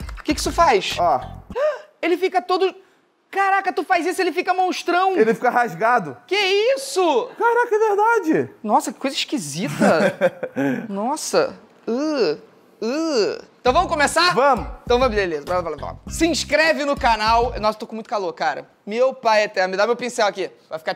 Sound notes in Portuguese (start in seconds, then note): 1.4 faz som de surpresa; 11.8 urgh